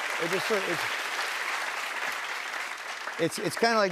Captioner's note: applause